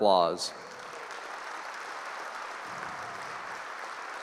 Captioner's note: applause